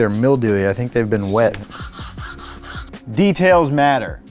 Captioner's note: brush scrubbing